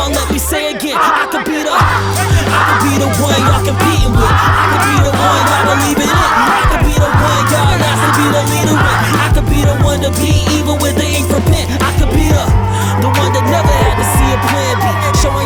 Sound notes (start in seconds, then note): 9.0 chanting